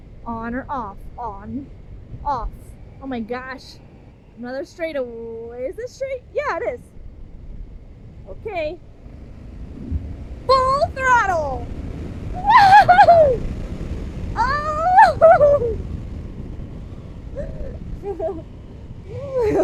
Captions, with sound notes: On or off. On. Off. Oh my gosh. Another straight away. Is this straight? Yeah, it is. Okay. Full throttle! (whooping happily)